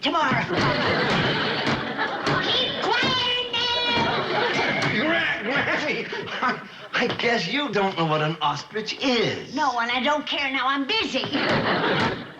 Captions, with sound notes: You can take me for a ride in it tomorrow. (banging on closet door) Keep quiet in there! Gran-Granny, I-I guess you don't know what an ostrich is. No, and I don't care. Now I'm busy. (banging continues) What was that?